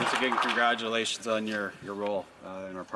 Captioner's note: applause